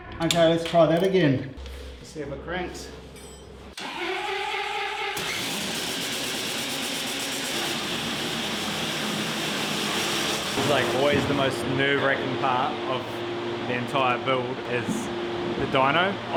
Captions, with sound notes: Okay, let's try that again. Let's see if it cranks. (engine starting) This is like always the most nerve wracking part of the entire build is the Dyno.